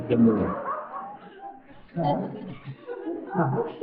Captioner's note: more laughing; laughter